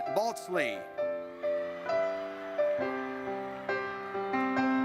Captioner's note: audience cheers